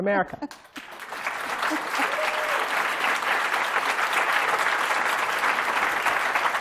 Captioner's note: applause